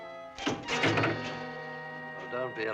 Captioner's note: ominous music; bang